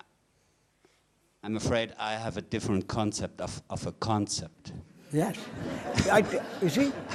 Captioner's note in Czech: smích